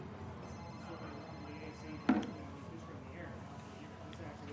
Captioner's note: phone ringing